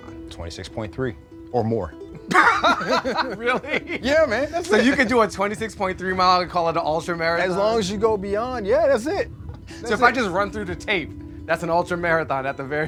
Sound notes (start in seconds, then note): 2.2 laughing